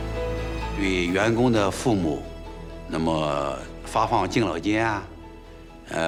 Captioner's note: hablan un idioma extranjero